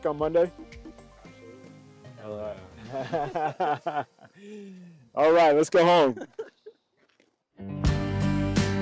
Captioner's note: tired mutterings of assent, laughter